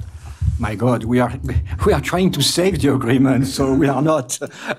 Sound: laughing

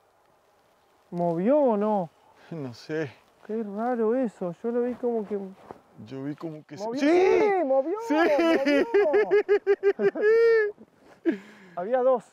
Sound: laughs

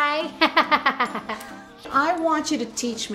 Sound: laughing

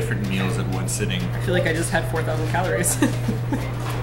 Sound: laughs

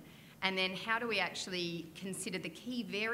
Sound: none

